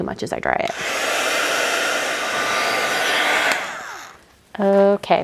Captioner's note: heat tool buzzing